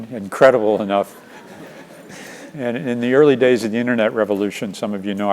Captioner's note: laugh